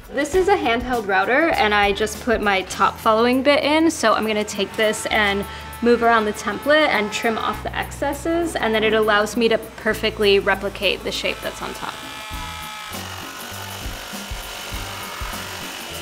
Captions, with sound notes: This is a handheld router, and I just put my top following bit in, so, I'm gonna take this and move around the template and trim of the excesses. And then it allows me to perfectly replicate the shape that's on top. [saw whirring]